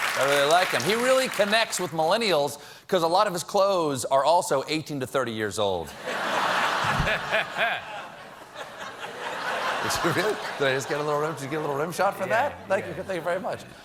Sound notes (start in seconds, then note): 2.9 laughter